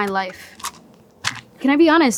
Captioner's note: toothpicks rattling